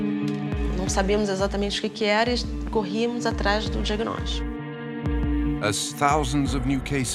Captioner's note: speaks in foreign language